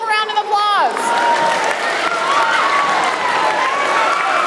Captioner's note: crowd clapping